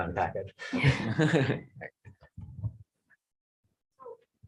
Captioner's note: chuckles